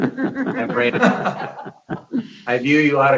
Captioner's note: chuckling